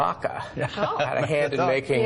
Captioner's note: laughing